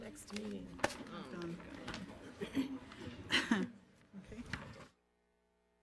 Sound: board members talk amongst themselves

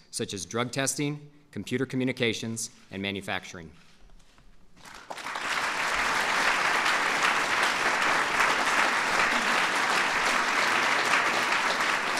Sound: applause

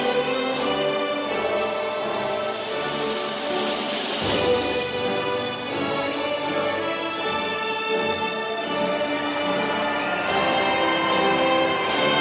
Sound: applause

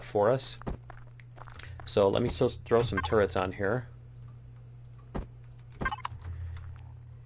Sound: beeping

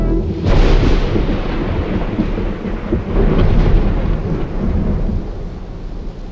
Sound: thunder claps

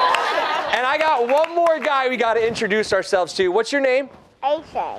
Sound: laughter

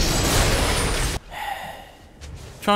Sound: sigh

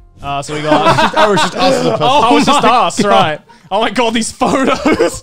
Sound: laughing

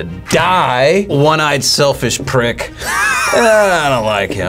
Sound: React laughs

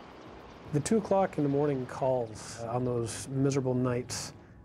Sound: voiceover

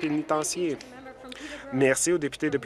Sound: applause

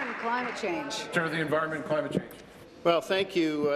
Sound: applause

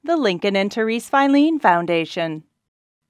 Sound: none

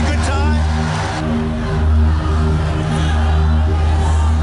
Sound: crowd shouting

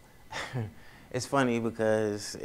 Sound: laughs

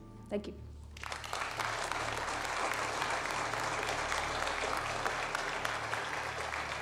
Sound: crowd clapping

